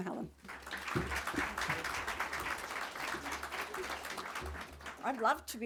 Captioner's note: audience clapping